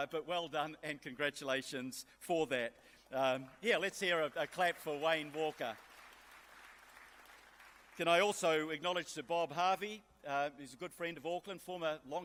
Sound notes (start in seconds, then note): 6.2 applause